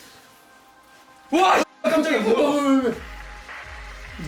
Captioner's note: scream